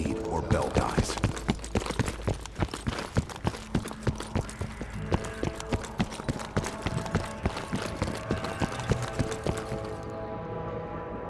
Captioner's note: footsteps